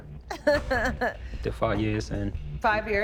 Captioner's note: laughing